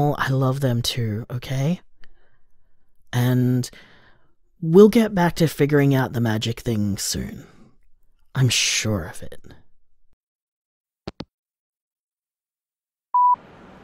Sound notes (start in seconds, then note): 10.9 hangup